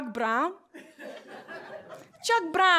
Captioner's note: laughter